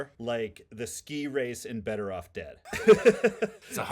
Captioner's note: laughing